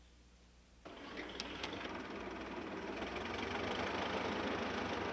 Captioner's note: engine rumbling